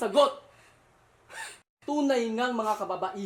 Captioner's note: scoffs